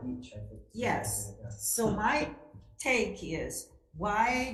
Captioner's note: speaks faintly